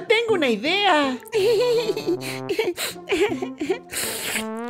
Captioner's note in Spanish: Memo rie nerviosamente